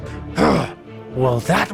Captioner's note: Robotnik Grunts